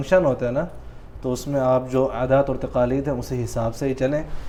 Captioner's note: Arabic